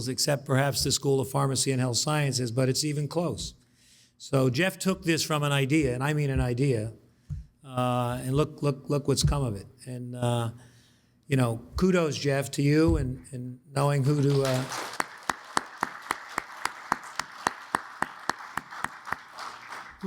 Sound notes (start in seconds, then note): 14.0 audience applauds